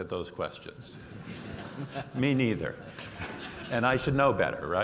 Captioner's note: audience chuckles